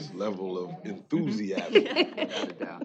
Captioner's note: chuckling